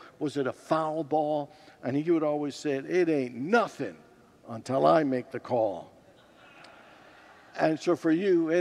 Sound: congregants laugh

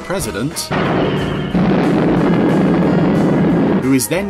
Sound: building exploding

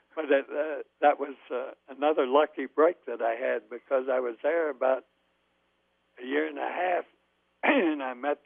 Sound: laughs

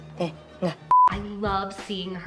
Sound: beep

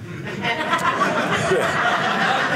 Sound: audience laughing

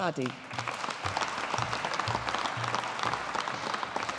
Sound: audience applauding

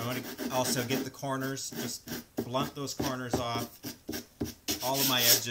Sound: scraping/sanding sounds

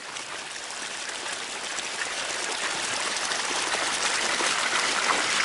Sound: running water

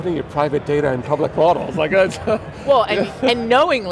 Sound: laughs

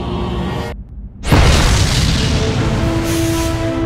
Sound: explosion

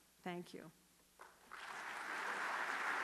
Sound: applause

